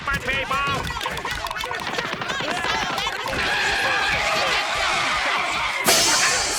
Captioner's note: arguing